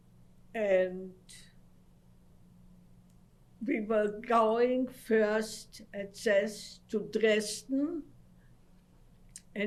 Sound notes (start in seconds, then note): 1.1 pauses for 3 seconds